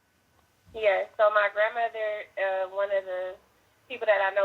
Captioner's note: phone Voice